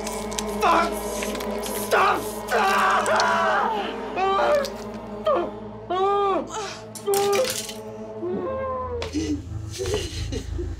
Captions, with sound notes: - Fuck! Stop, stop! (sobbing screams)